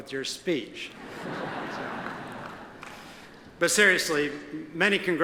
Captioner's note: audience laughs